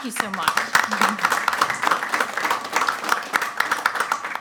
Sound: clapping loudly

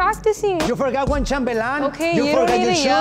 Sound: speaking Spanish

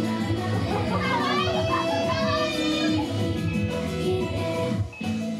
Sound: kawaii noises

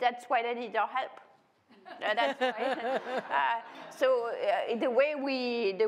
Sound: laughter

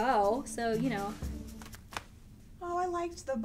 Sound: thread snaps

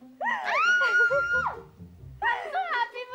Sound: excited screams

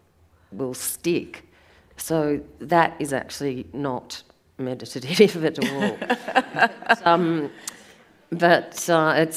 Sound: audience laughs

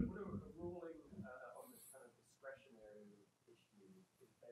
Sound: man speaks softly

